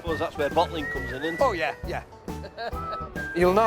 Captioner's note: chuckles